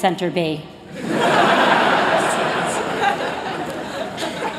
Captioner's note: laughter